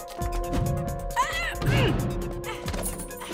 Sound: Kia grunts

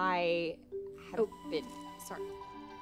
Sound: fuck, edison's phone buzzes

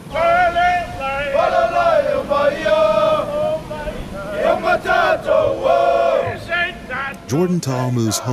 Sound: waves crashing; chanting

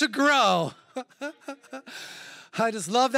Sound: chuckles

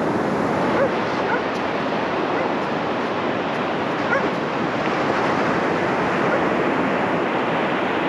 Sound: sounds of dogs barking

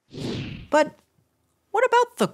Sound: picture passes swooshes

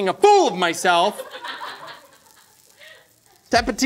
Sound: laughing

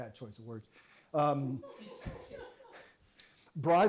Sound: audience laughs

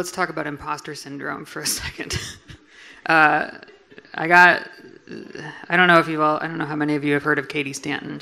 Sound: laughs

